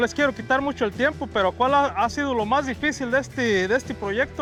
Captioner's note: none